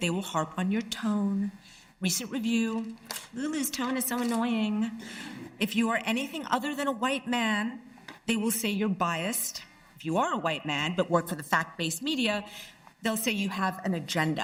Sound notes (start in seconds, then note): none